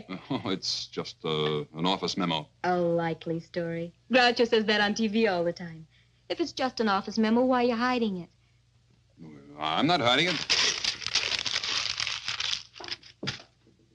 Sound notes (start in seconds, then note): 0.3 chuckles; 9.9 paper crinkling